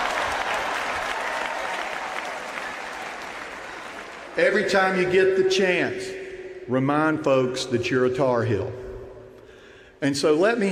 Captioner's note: laughter and applause